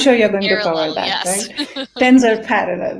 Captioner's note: laughs